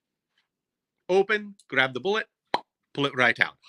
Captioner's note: popping